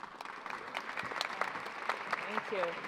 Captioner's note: applause